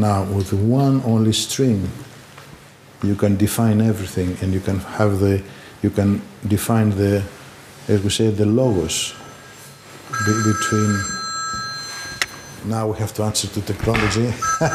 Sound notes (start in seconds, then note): 9.7 phone ringing; 14.4 laughing